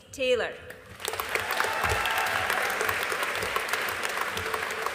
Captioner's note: audience applauding